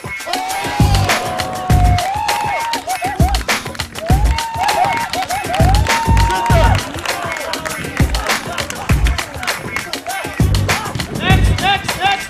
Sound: rhythmic music playing; cheering and applauding

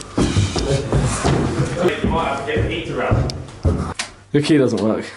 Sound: feet stomping

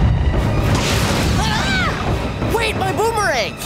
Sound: screaming

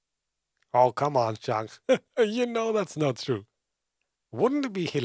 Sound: laughs

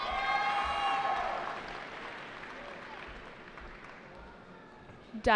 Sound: cheering

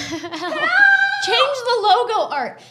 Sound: both laughing

